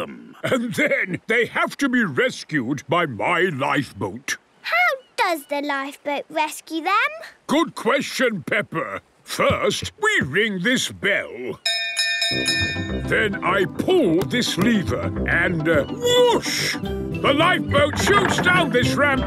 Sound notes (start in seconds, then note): 11.6 bell chimes